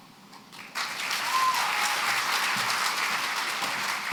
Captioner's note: applause